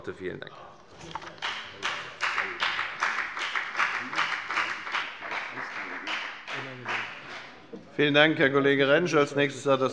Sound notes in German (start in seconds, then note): 1.3 Beifall bei der FDP